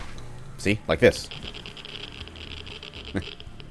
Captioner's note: geiger Counter screaming in anguish